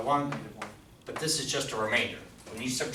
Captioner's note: voiceover